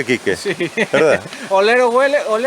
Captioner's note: laughs